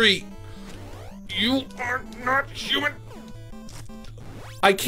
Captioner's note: gritting teeth